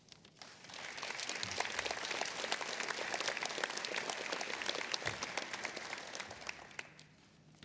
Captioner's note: applause